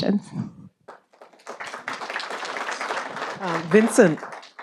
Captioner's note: audience applauding